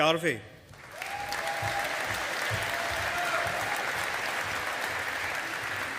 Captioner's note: audience applauding